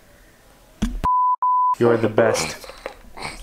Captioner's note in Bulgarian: звукови сигнали